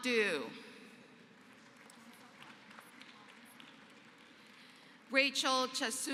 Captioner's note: applause